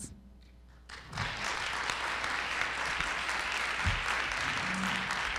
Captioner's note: audience applauding